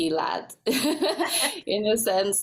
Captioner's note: both laugh